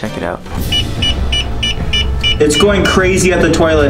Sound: sensor beeping

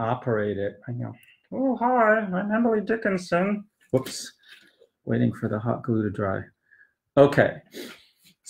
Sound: in a silly voice- "oh hi, I'm Emily Dickinson!"

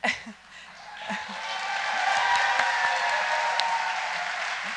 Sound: audience applauding; audience cheering

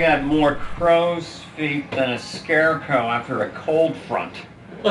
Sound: laughs

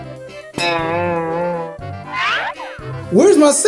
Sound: cartoon boinging sound effect

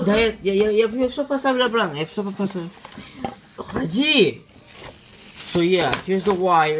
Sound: speaking foreign language

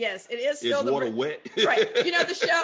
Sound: laughs

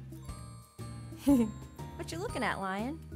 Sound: chuckling

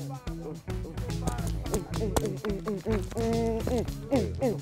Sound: grunting

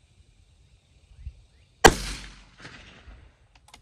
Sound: report of the rifle

